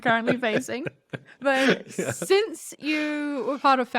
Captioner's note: both laugh